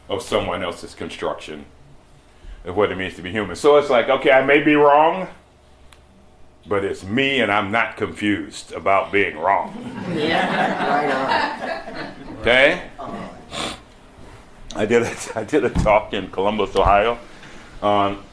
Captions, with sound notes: of someone else's construction, of what it means to be human. So it's like, okay, I may be wrong but it's me and I'm not confused about being wrong. (laughter) Okay? I did a t— I did a talk in Columbus, Ohio, on—